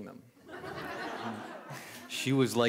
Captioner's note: laughter